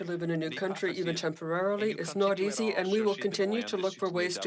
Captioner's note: speaking French